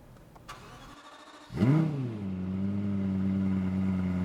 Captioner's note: engine revs